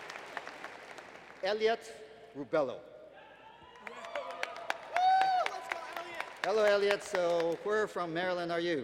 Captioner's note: applause